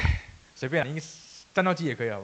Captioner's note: sighing over my own drawing ability